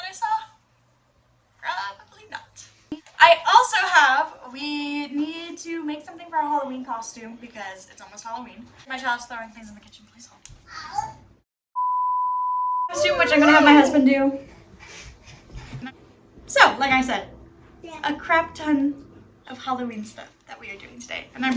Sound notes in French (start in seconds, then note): 11.8 Bip; 12.9 un tout-petit fait sonner une sirène